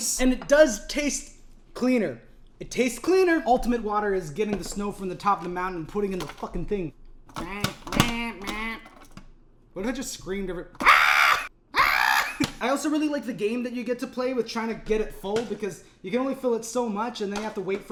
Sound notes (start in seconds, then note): 10.8 screams; 10.8 screams louder